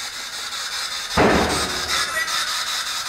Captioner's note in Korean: 문닫히는 소리; 고스트박스 소리